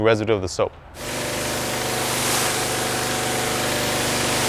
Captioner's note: machine whirring